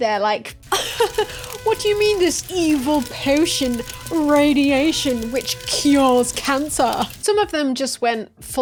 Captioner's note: laugh